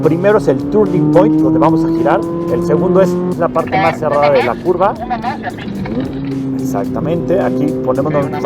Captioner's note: voice over the radio